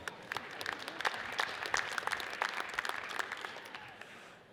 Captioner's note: audience applauds